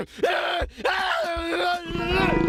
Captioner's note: screaming